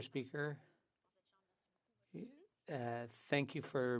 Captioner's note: speaking French